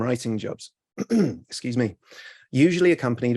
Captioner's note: clears throat